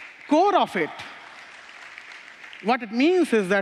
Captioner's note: applause